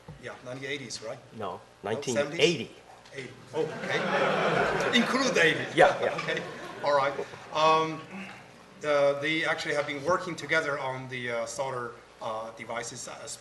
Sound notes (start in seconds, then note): 3.6 laughter